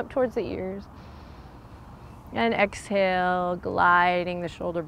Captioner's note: takes deep breath